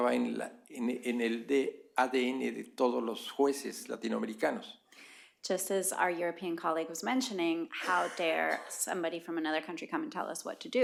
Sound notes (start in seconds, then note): 0.0 spanish; 4.2 spanish